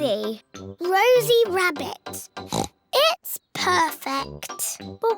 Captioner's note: oinks